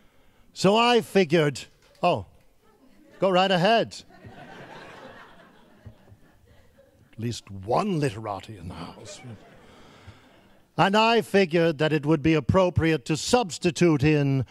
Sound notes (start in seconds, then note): 4.4 laughing